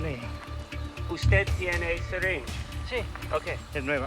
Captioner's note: Spanish language